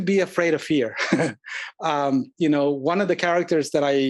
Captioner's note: laugh